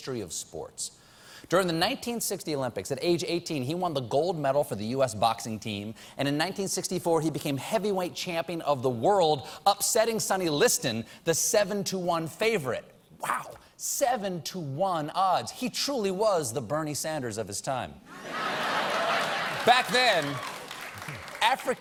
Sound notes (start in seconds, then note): 18.8 applause